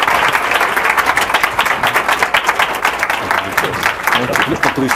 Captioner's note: applause